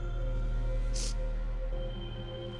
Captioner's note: sniffles